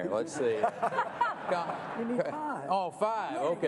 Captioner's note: laughter